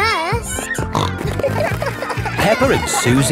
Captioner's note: snorting